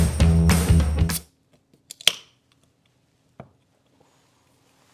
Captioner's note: tab popping